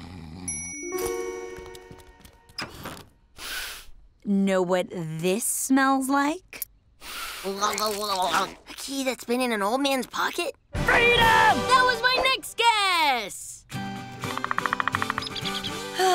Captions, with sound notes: [sniffs] Know what this smells like? [inhales, blubbering] A key that's been in an old man's pocket? Freedom! That was my next guess!